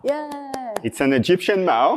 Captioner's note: claps